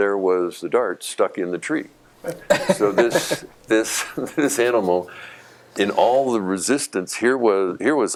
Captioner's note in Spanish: Risas